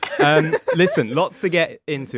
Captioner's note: all laughing